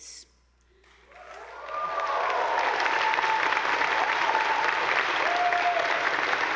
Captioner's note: attendees applauding; audience whooping